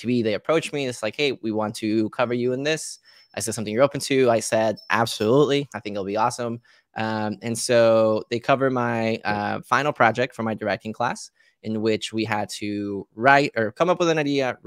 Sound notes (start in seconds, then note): none